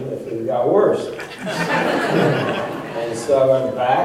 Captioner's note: laughter